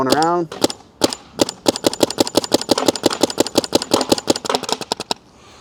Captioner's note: paintballs ricocheting